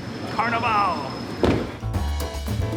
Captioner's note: car door closes; lively music